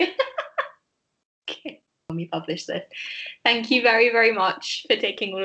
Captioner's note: laughter